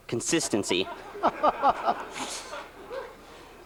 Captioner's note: laughter